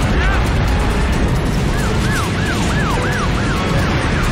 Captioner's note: sirens wailing